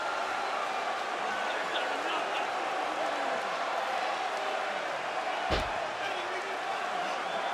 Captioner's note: crowd cheering; crowd chatter